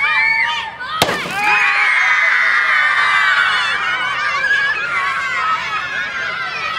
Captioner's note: all cheering; watermelon splat; all screaming